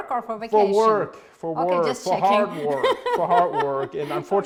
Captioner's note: laughs